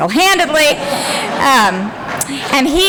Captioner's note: laughter